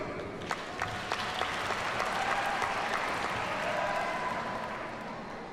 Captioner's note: audience cheers and applauds